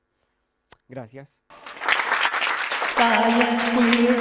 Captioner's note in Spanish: aplauso